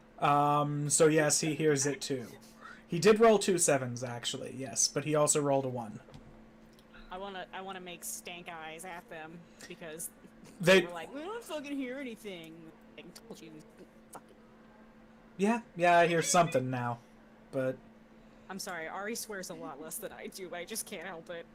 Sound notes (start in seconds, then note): 10.5 mocking; 15.8 laughing